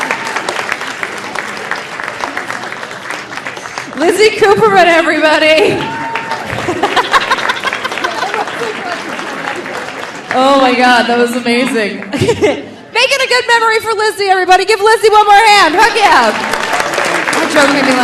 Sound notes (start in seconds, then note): 0.0 audience cheering; 0.0 audience applauding; 6.5 laughs; 6.8 audience applauding; 15.7 audience applauding